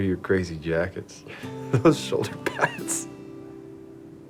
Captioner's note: laughing